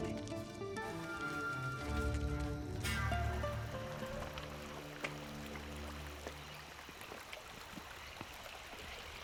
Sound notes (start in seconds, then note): 0.0 bright music; 5.3 water flowing